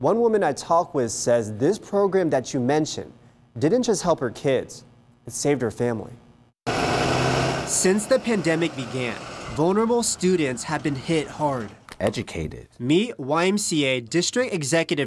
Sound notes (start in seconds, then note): 6.6 bus drives